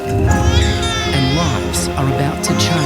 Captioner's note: baby crying